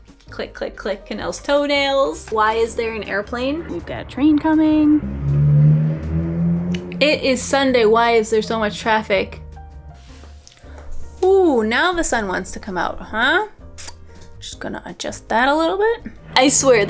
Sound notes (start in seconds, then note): 5.0 intense traffic sounds